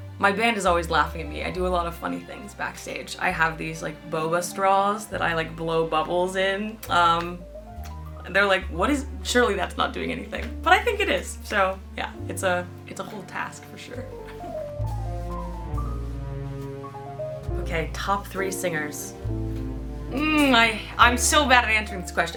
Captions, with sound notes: MY BAND IS ALWAYS LAUGHING AT ME. I DO A LOT OF FUNNY THINGS BACKSTAGE. I HAVE THESE, LIKE, BOBA STRAWS THAT I, LIKE, BLOW BUBBLES IN, UM... AND THEY'RE LIKE, "WHAT IS-- SURELY THAT'S NOT DOING ANYTHING," BUT I THINK IT IS. SO YEAH, IT'S UH-- IT'S A WHOLE TASK FOR SURE. [LAUGHS] OKAY, TOP THREE SINGERS. MM I-- I'M SO BAD AT ANSWERING THIS QUESTION.